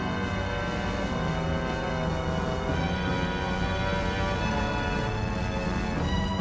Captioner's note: intense, dramatic music; flames roaring